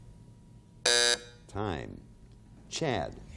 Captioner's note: timer buzzing